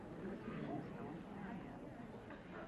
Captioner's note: whispering